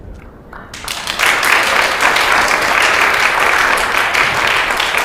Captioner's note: congregation applauds